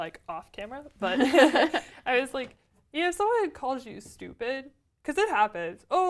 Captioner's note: laugh